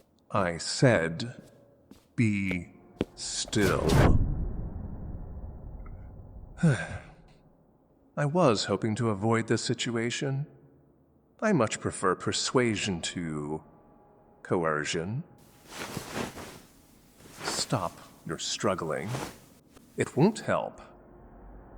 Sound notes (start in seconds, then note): 4.1 sounds of warping; 6.4 rueful sigh